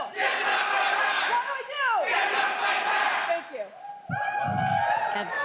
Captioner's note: crowd chanting